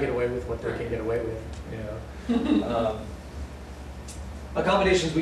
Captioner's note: laughter